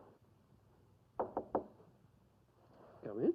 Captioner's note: knocking at the door